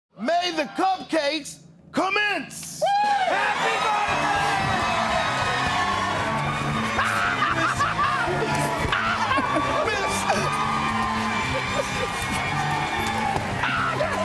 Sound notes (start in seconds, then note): 2.8 cheers and applause; 7.0 laughter